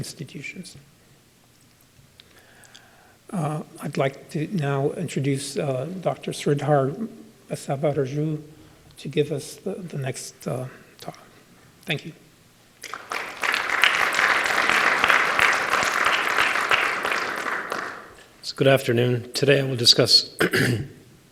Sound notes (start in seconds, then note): 12.8 applause